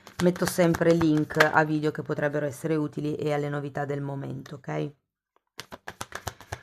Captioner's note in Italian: Applauso